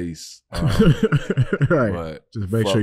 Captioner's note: laughing